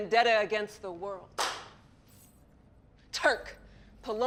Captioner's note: claps